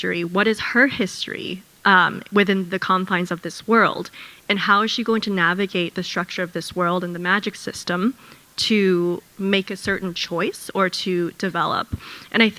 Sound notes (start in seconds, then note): none